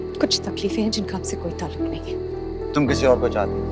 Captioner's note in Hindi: none